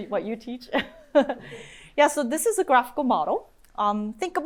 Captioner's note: chuckles